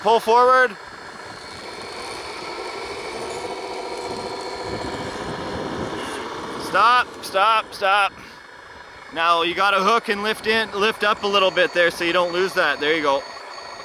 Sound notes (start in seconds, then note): 0.9 machinery engine revs